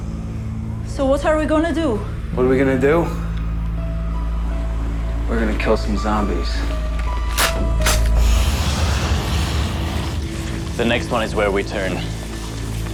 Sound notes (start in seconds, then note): 9.6 gun clicks; 10.5 dramatic music